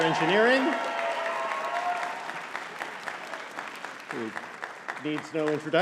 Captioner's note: audience cheering and clapping